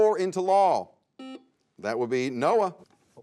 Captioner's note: buzzer sounds